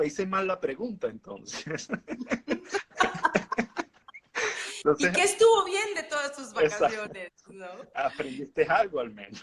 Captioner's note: laughing